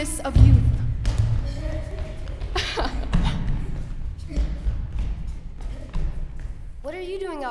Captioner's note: laughing